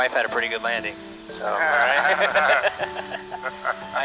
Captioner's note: laughter